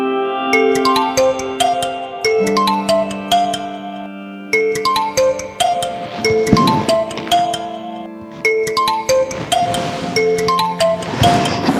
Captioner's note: suena el teléfono